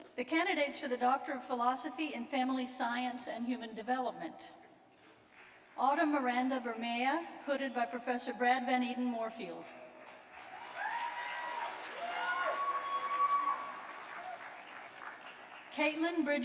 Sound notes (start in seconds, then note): 8.3 cheers